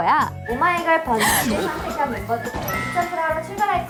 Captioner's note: gasp